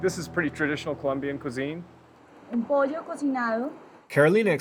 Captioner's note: speaking Spanish